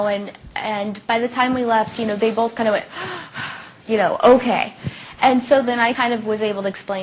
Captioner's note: big sigh